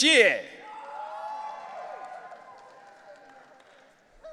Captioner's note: audience cheering